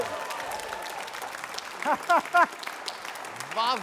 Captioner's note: applause; laughs